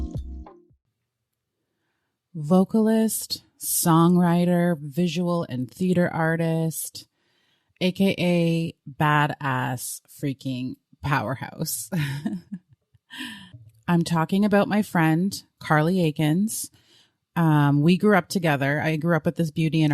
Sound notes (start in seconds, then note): 12.0 giggles